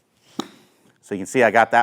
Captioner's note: ball thwacks